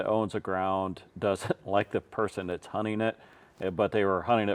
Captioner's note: laughing